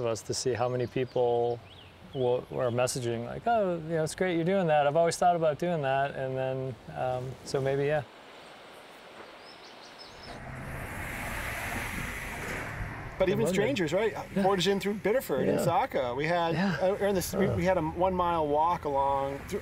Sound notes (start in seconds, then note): 8.4 birdsong; 9.9 traffic